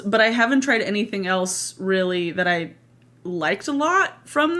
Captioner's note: none